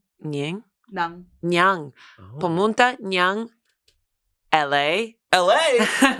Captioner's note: speaks foreign language